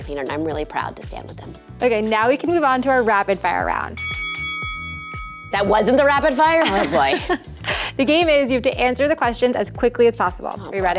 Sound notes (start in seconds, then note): 4.0 dings; 6.6 laughs